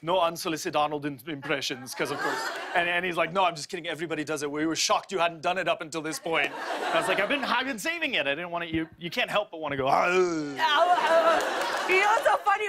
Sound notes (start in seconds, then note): 1.5 laughter; 8.8 grunting; 9.4 laughter